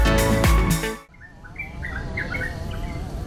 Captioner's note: birds chirping